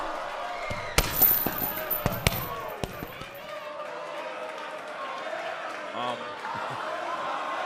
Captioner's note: crowd cheering